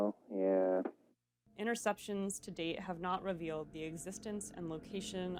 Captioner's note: reading